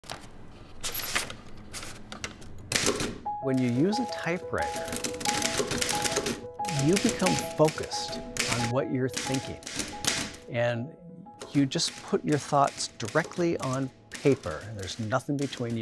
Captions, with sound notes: (paper moving) (typewriter clanking) When you use a typewriter, (typewriter clanking) you become focused on what you're thinking and you just put your thoughts directly on paper and there's nothing between you